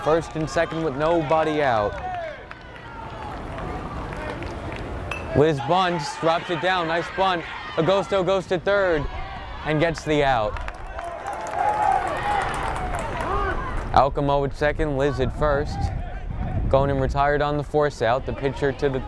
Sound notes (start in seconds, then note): 3.0 bat pings; 11.8 teammates applaud